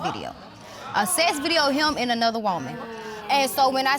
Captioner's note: audience exclaims